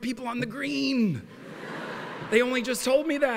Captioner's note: laughter